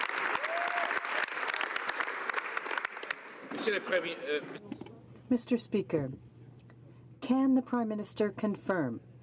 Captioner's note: some Applause